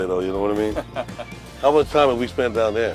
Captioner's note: laughing